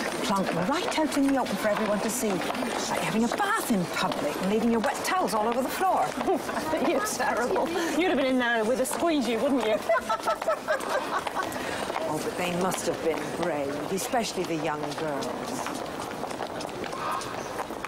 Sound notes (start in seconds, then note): 9.5 women laughing